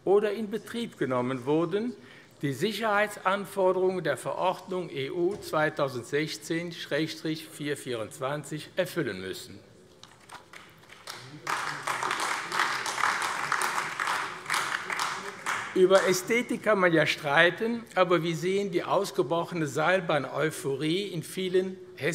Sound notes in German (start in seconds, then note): 10.0 Beifall AfD